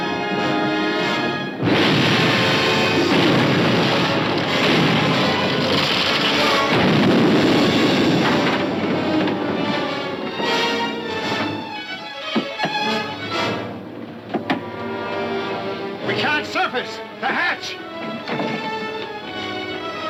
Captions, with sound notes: (explosion booming) (dramatic music) We can't surface! The hatch! (tense music)